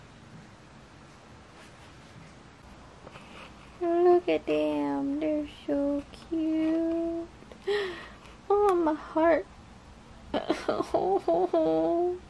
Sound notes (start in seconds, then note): 10.3 sobbing